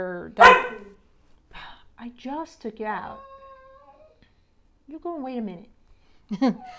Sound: dog barking

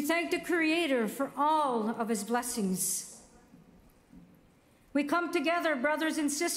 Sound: speaking Indigenous Language

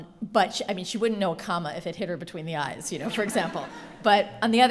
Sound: laughter

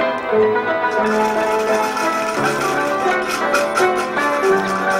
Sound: coins rattling

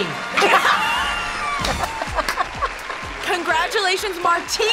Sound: both laugh

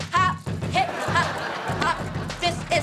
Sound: audience laughing

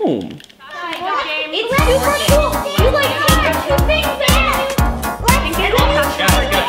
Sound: family arguing

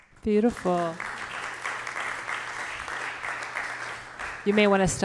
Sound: audience applauding

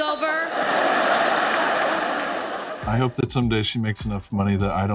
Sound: audience laughs

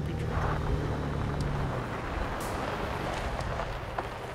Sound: vehicle engine roaring; intense upbeat music

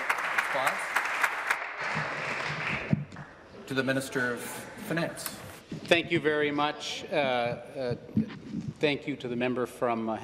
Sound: applause

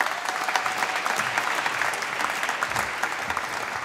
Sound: applause

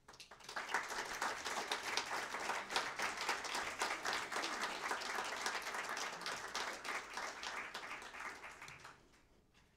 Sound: applause

